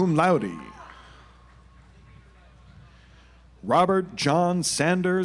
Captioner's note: audience applauds